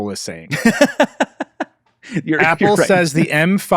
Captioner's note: laughs